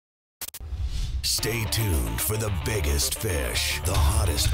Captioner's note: voiceover